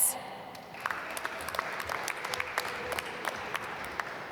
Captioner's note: applause